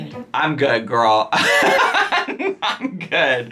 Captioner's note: laughing